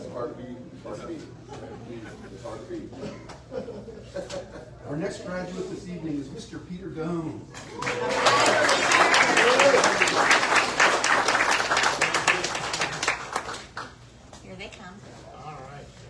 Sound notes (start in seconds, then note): 7.7 audience cheers and applauds